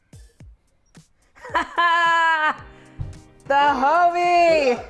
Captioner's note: laughs